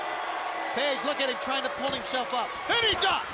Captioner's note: crowd chatter